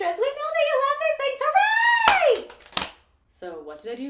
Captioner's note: Rubik's Cube hitting the ground